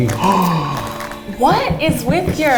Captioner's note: gasps